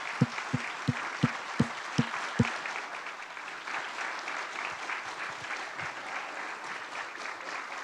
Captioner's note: applause